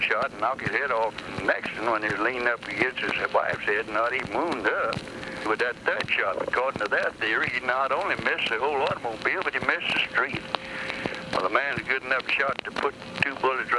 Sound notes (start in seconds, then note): none